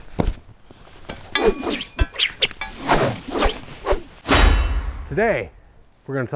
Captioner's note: animated shovel spinning sounds